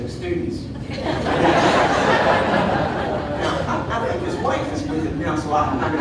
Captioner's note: audience laughing